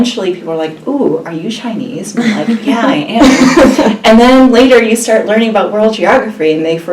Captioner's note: laugh